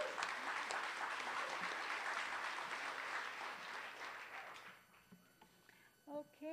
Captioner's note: applause